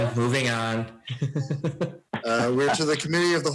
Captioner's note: laughs